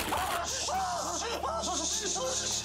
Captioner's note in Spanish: quejidos